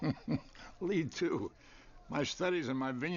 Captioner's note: laughs